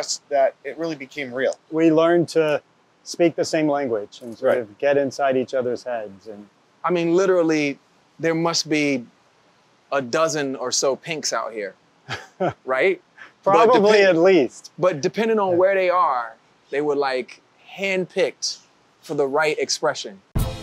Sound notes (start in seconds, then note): 12.0 chuckles